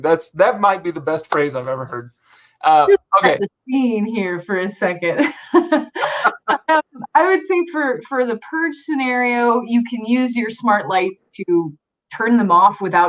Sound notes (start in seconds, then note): 5.2 both laughing